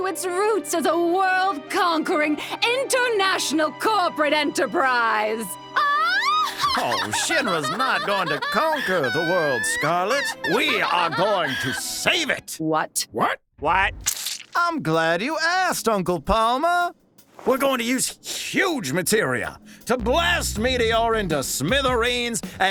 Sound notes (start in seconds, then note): 6.3 laughs evilly; 14.0 spurts